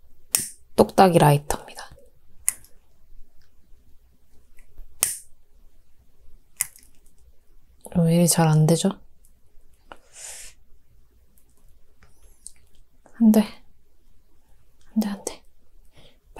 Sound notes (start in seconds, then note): 4.9 click